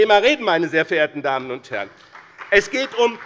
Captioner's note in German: Beifall bei dem BÜNDNIS 90/DIE GRÜNEN und der CDU